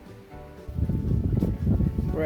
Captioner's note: wind